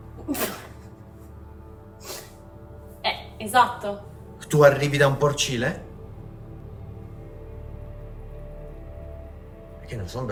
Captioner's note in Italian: sbuffare